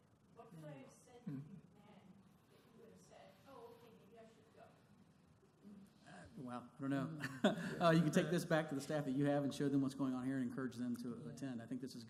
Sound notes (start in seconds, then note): 7.2 chuckle